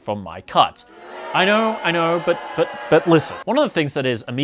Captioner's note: loud booing